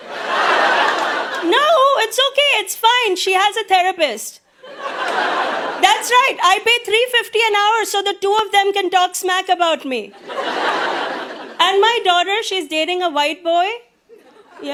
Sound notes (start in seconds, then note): 0.0 audience laughs; 4.6 audience laughs; 10.2 audience laughs